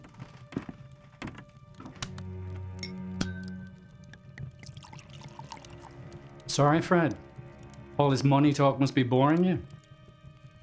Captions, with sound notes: (glass clinks) (alcohol splashing) Sorry Fred, all this money talk must be boring you.